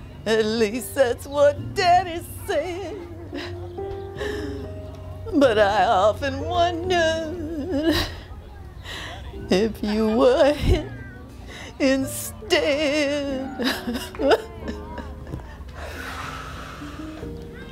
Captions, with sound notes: at least that's what Daddy' said. But I often wondered if you were hit instead. (crying/coughing) (uses inhaler)